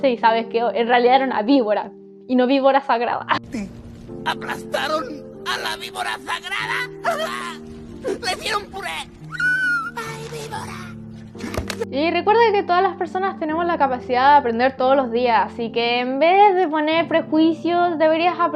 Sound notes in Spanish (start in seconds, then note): 6.4 llanto